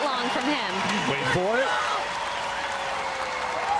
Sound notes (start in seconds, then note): 2.8 audience cheers